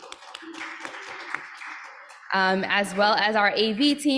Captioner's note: applause